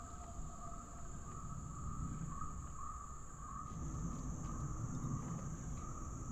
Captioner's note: animals whooping and chattering